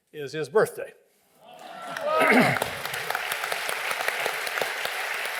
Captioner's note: applause